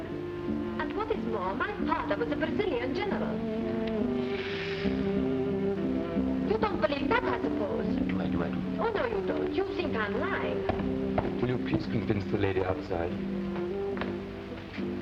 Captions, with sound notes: - And what is more, my father was a Brazilian General. (audience shushing) You don't believe that, I suppose. - I do, I do. - Oh, no, you don't. You think I am lying. - Will you please convince the lady outside?